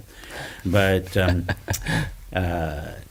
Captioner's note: laughs